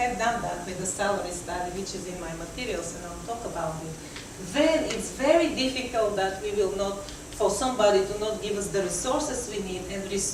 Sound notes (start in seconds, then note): none